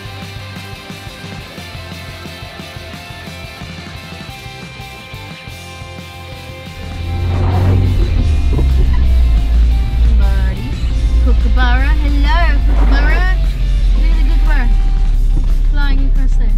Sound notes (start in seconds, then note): 7.1 the wipers squeak-scrape